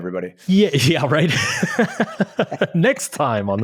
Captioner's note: chuckles